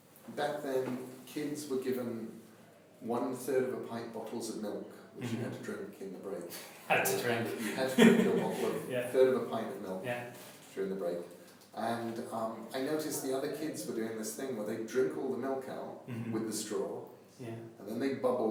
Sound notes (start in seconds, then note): 10.1 laughs